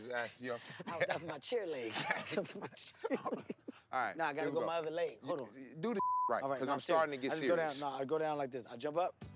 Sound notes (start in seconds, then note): 1.7 both laugh